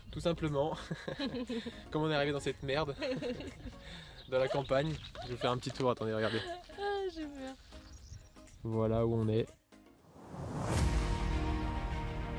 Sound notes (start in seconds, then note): 0.8 laughs; 4.3 laughs